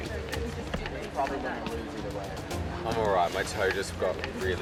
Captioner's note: overlapping chatter